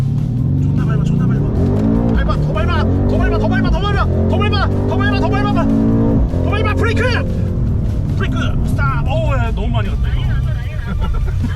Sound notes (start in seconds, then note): 6.7 sudden brake!!!!!